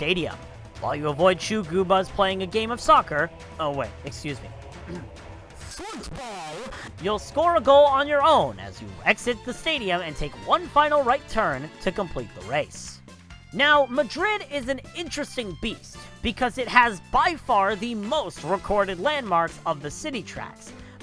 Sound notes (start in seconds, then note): 4.9 clears throat